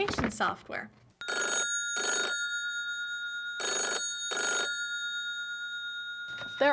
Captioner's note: phone ringing